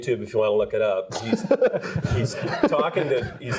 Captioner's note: laughs